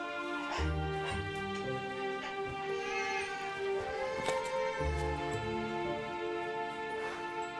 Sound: baby crying

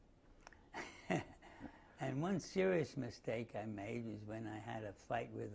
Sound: laugh

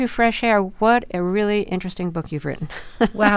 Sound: laughter

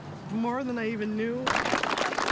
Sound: NATS/applause

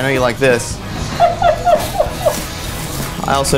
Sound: laughing

